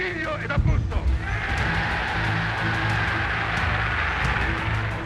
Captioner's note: Mussolini speaking in Italian; spectators cheering